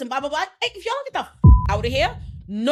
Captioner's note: beep